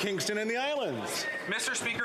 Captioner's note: some Applause